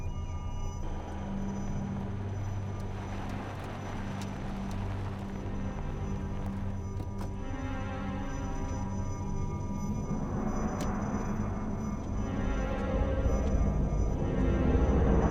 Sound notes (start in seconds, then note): 4.3 aircraft noise